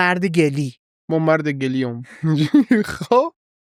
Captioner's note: laughs